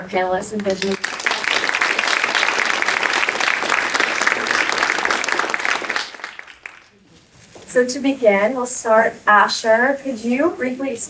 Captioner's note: applause